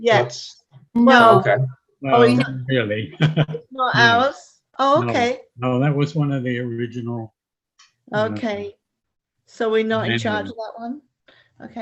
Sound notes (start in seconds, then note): 2.1 laughing